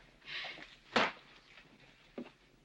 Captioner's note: smack